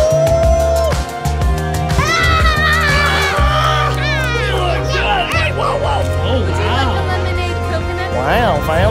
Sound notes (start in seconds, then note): 2.1 yells